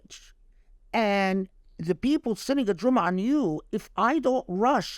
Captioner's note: speaking Arabic